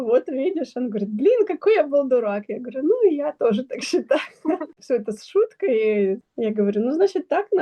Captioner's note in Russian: смех